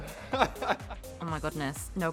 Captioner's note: laughs